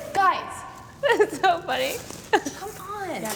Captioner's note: giggles